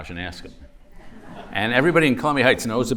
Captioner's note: laughter